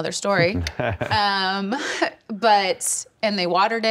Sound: others chuckle

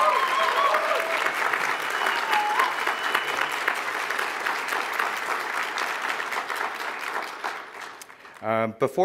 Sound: applause

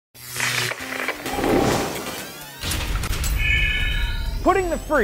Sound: sound Effects

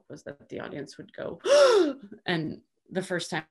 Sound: gasps loudly

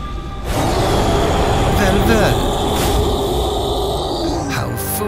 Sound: roar

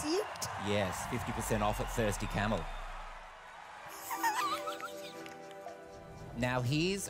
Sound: laughs

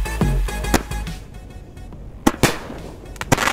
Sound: energetic dubstep music; firework popping; firework crackling

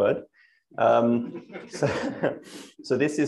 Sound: laughter

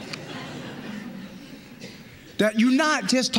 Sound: laughter

